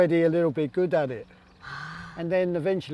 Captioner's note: gasps